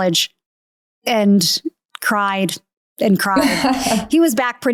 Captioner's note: laughing